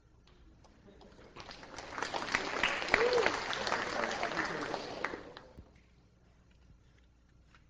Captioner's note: students applaud